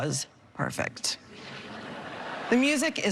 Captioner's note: laughter